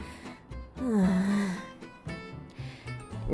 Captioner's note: sigh